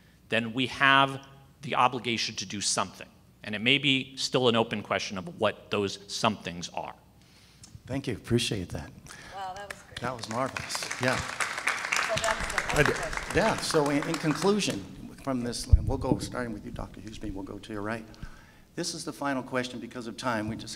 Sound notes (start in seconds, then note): 12.1 audience claps